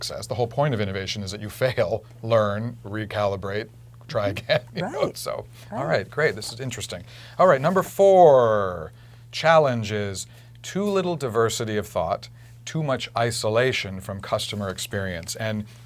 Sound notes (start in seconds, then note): 4.7 laugh